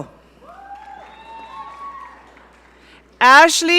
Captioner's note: audience cheering